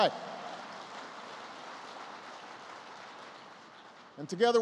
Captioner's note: applause